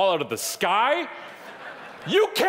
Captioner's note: audience laughing